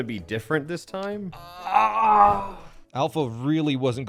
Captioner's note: frustrated groaning